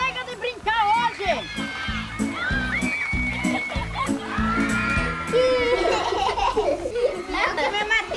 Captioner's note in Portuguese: risos